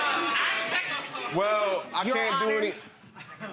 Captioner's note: audience murmuring